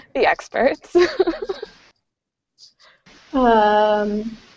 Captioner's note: laughs